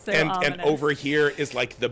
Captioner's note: laughing